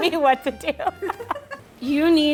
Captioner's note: laughing